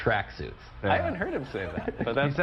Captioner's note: laughter